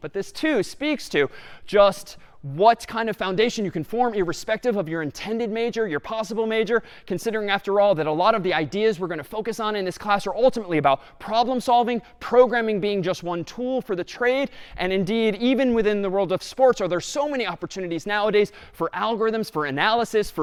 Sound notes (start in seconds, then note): none